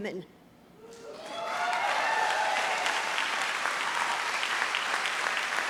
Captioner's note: audience cheers and applauds